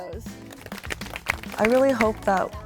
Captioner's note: clapping